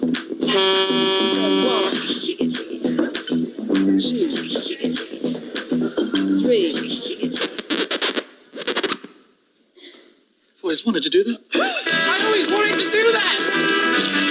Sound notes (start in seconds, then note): 0.4 horn honking; 8.1 record scrubbing